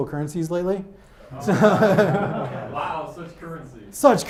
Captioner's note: audience laughs